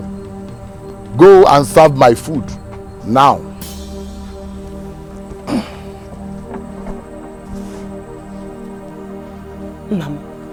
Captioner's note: clears throat